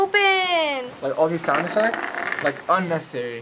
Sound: battery rolls

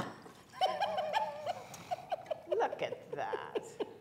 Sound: giggling

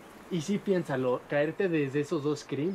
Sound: in Spanish

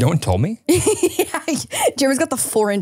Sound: laughs

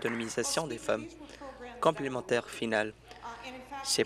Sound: applause

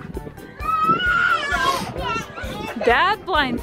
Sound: baby screaming

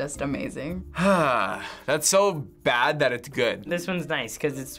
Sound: sighing

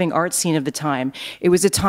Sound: none

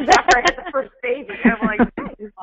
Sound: voiceover

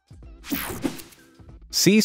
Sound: screen whooshing

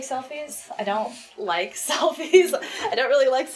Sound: laughs

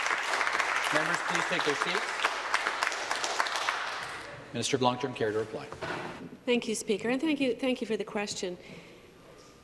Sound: applause

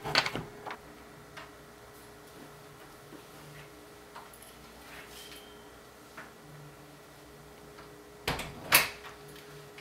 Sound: door opens and closes

